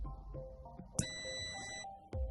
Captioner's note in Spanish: sonido: piiiii